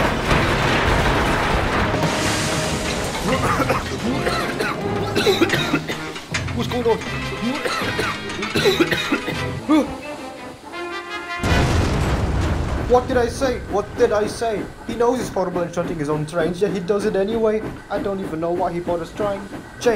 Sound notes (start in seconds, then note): 3.2 Barry the Painter coughs heavily; 7.3 more coughing